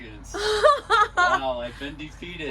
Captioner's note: laughs